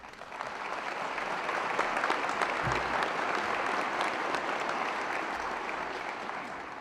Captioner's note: applause